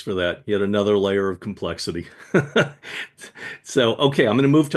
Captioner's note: laughs